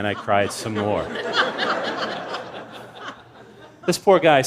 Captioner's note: laughter